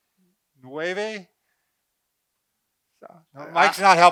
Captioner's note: speaking in foreign language